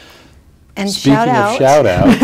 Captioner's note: laughs